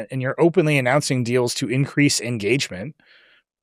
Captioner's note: none